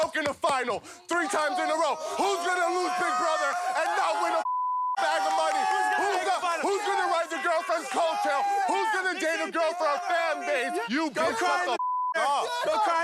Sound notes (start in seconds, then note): 4.4 beep; 11.8 beep